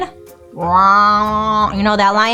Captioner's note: imitates lion's roar